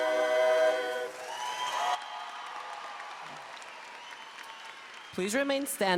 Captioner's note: audience clapping and cheering